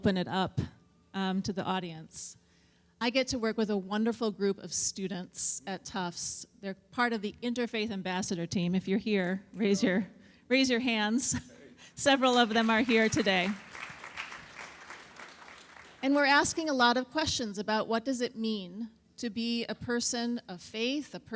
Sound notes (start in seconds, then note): 12.0 audience applauds